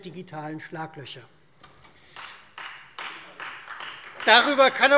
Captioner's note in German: Beifall Freie Demokraten